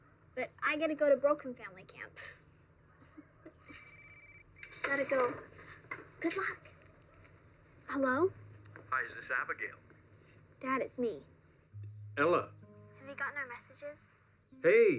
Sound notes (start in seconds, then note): 3.2 laughs; 3.6 phone ringing